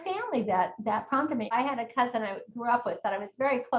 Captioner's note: none